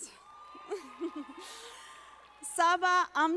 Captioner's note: audience applauding